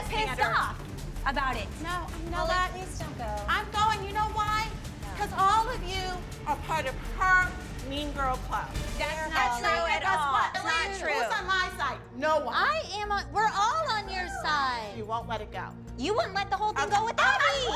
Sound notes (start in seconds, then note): 11.0 chatter